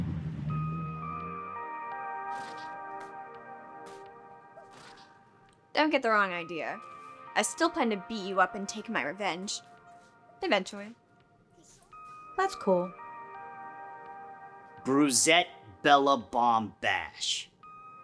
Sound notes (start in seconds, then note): 0.4 serene music; 2.3 video game sounds